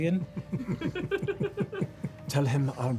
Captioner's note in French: rires